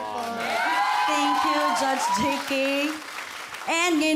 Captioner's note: audience cheering